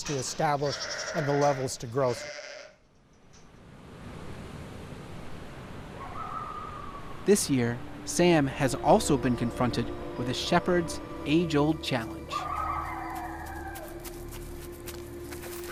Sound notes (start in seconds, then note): 4.1 coyote howling; 4.1 wind blowing; 12.0 coyote howling; 12.4 snow crunching